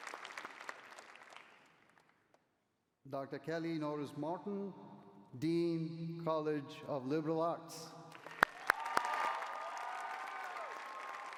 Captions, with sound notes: Dr. Kelly Norris Martin, Dean, College of Liberal Arts. [CHEERING]